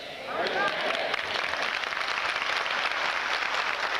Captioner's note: applause